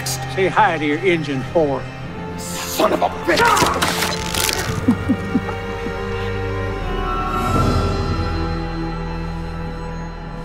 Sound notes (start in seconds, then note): 3.3 rope creaking; 4.6 Hicks chuckles; 7.5 dramatic music